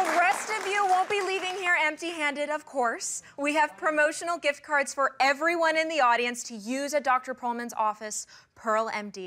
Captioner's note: applause